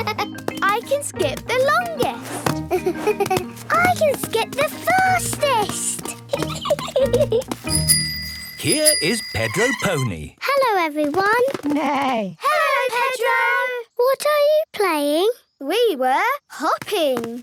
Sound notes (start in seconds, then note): 7.6 bike bell; 9.4 neigh